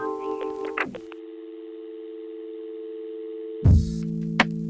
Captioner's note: dead phone line buzzing; drum and bass music